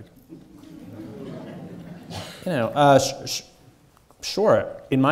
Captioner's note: audience chuckling